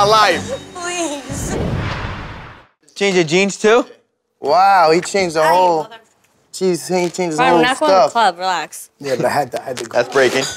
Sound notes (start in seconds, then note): 1.2 whooshing